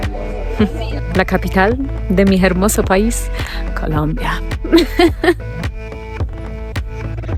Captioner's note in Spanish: risas